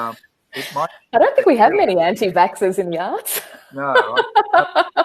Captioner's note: laughs